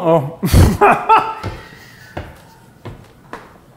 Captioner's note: laughs